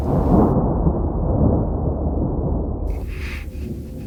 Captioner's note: thunder rumbling